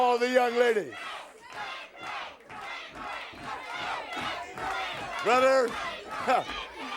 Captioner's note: crowd cheering